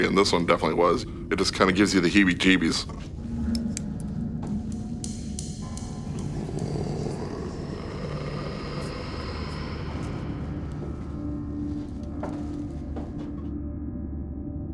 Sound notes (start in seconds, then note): 3.0 eerie music; 6.2 disembodied Voice; 10.1 eerie music